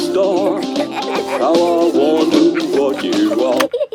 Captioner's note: both giggling